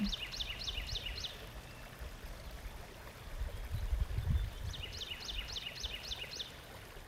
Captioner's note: birds tweeting; water flowing